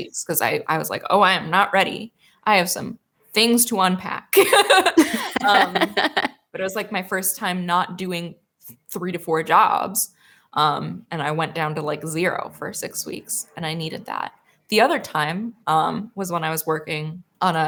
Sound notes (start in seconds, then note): 4.4 laughs